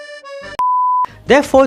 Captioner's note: beep